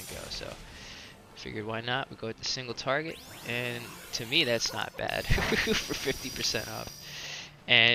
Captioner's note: laughs